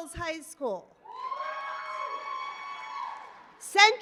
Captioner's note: applause